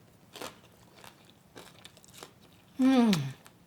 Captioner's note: food crunching